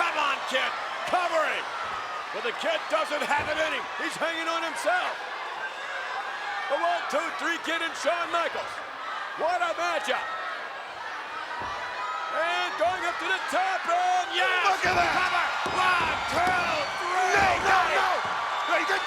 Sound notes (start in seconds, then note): 11.1 audience chattering